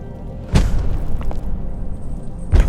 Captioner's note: chains rattling